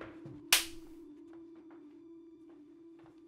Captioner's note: slapping